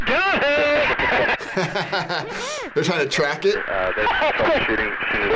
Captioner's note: laughs